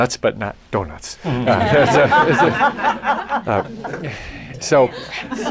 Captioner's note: laughter